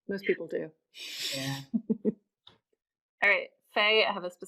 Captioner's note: laughing